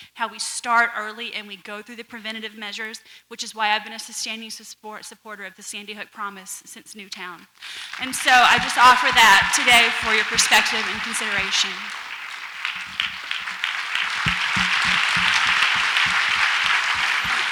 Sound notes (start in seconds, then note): 12.8 audience applauds